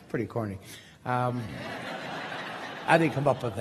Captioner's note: crowd laughing